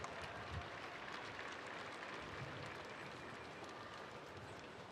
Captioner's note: spectators applauding